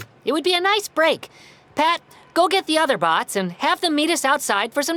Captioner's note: none